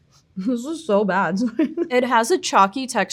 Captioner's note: laughs